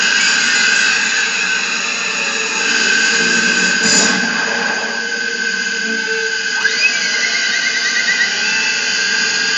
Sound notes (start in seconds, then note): 3.8 thud